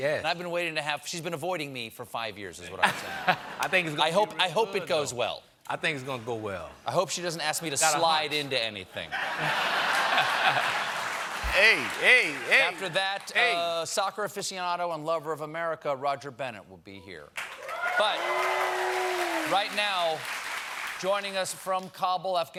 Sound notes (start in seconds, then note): 9.1 laughter; 17.4 cheers and applause